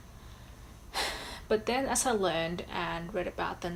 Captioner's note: sighs